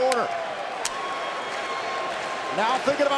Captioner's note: crowd cheering